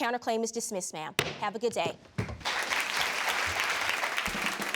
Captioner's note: audience claps